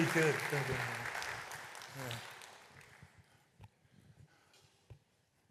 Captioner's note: applause